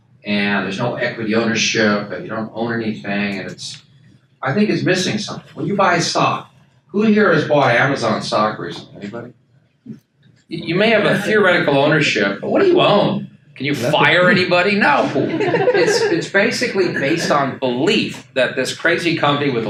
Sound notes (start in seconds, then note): 13.8 attendees laugh